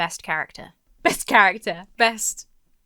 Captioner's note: chuckles